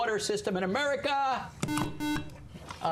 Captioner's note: buzzer